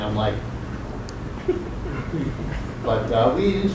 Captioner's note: giggling